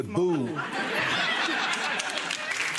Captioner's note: audience laughing; audience clapping